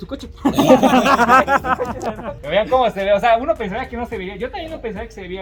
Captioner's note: laughs